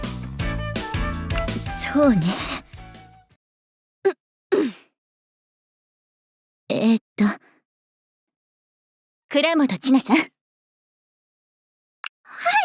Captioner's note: ahem